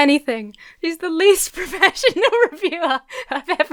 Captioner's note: laughs